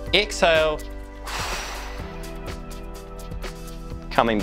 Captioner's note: exhales